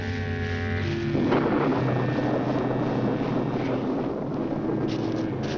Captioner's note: thunder crashing